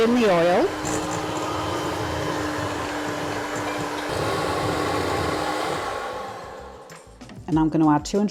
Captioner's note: hand mixer whirring